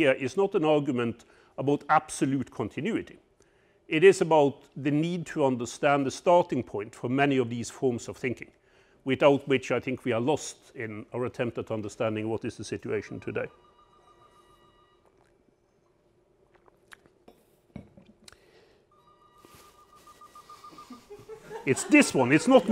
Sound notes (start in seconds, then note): 13.2 telephone ringing